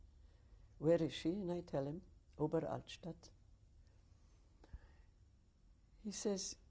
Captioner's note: pauses for 3 seconds